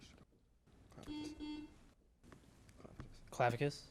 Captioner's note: buzzer buzzes